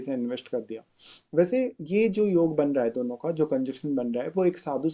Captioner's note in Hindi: नाक से की जाने वाली आवाज़